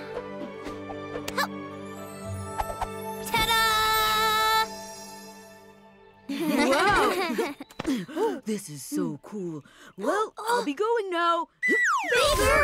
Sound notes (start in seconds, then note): 6.3 all laugh